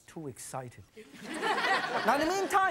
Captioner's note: audience laughs